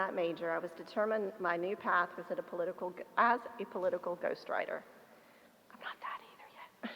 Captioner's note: whispers